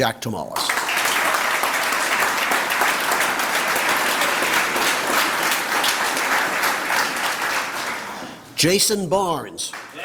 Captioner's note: applause